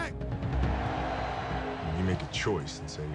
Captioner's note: loud cheering